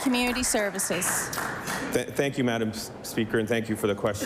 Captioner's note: some Applause